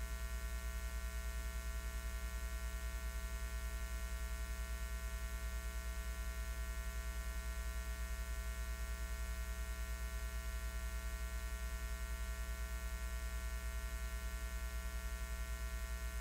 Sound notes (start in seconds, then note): none